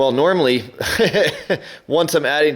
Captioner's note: laughs